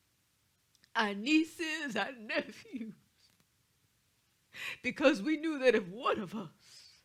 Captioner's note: sobs